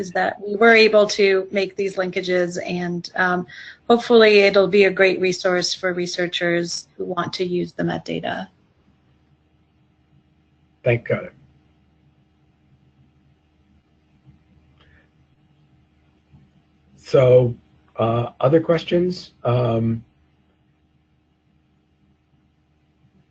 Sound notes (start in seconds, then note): 8.6 pause; 12.2 pause; 20.3 pause